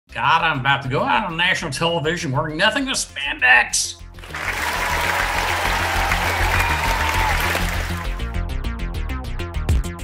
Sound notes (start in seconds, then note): 4.2 audience applauds